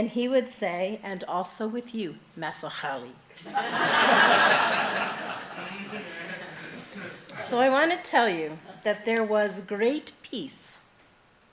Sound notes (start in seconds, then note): 3.4 laughing